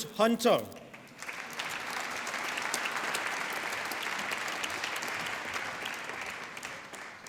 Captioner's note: applause